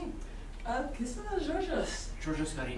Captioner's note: speaking grammelot